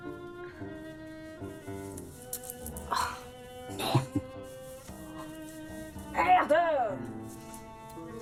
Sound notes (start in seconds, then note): 3.8 laughing